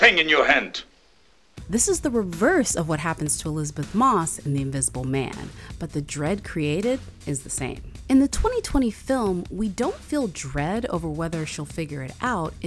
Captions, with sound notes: - You had nothing in your hand! - [Voiceover] This is the reverse of what happens to Elizabeth Moss in The Invisible Man, but the dread created is the same. In the 2020 film, we don't feel dread over whether she'll figure it out,